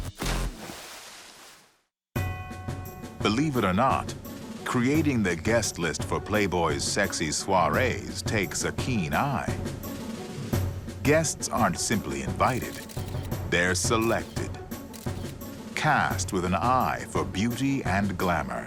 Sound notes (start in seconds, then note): 14.9 camera snapping